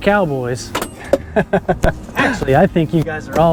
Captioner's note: chuckles